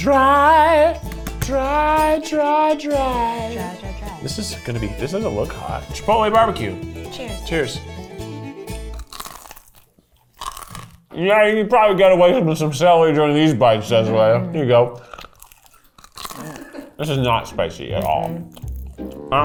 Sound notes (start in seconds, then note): 0.4 upbeat bluegrass music; 8.8 crunching; 15.0 crunching